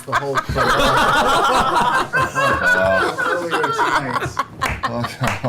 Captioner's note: all laugh